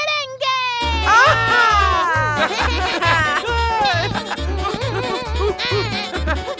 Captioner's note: laughing; upbeat music